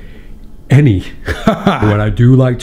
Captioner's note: laughing